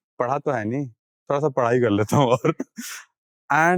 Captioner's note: speaking in Hindi